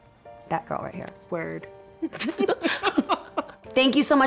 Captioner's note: giggling